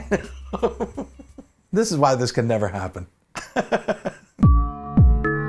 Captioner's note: laughs